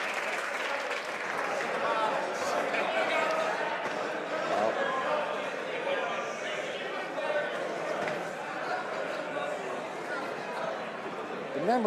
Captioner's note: some Applause